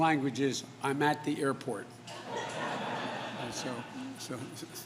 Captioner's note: laughter